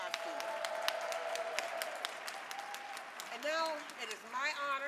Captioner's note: audience clapping and cheering